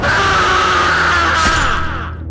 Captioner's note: Keisha screaming; door slams; knife slices